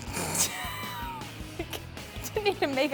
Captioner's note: laughing